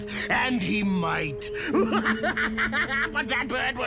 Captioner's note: laughs